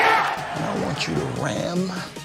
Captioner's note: crowd cheering